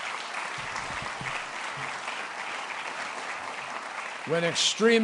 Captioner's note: applause